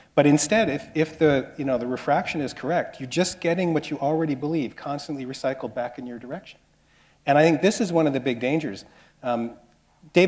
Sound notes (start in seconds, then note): none